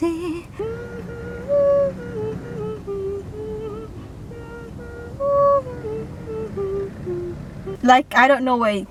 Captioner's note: proceed with humming to the rest of the song